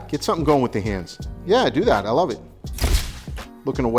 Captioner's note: shutter clicks